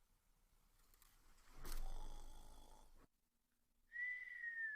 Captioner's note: loud snoring